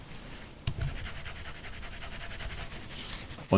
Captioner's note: quick rubbing